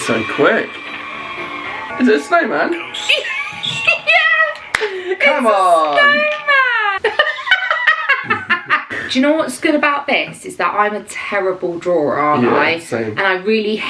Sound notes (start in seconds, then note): 2.9 ghostly voice; 3.0 laughing; 4.5 hands slapping; 7.7 laughing